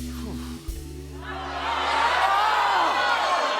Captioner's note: audience groans